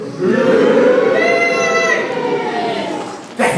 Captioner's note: boos